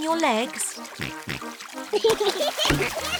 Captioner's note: oinks; both giggle